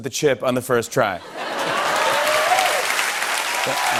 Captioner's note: laughter, cheers and applause